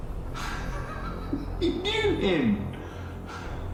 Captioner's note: laughing